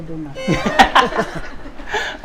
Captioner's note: laughs